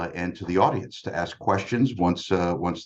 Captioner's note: none